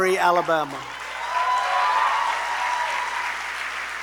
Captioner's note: applause